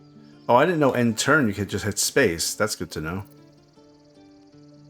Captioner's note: none